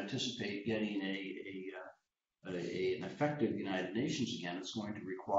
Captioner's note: blip